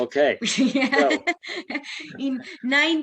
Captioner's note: laughs